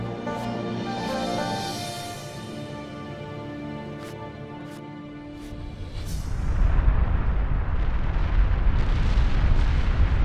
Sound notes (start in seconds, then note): 6.4 volcano roaring